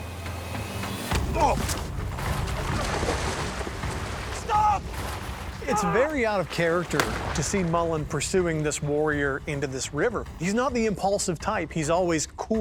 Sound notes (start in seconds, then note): 1.2 shove, grunt